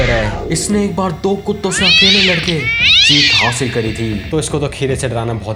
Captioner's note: screaming sound